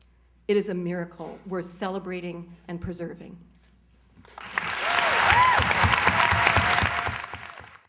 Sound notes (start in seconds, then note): 4.2 cheers, applause